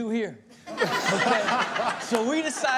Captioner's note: Chanel laughing; laughing